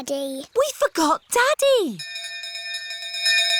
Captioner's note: bell continues dinging